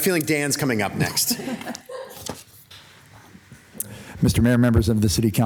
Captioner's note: council members and staff members laughing